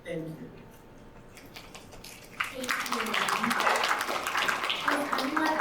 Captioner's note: audience applauding